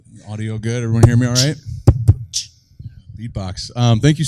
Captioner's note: Gary beatboxes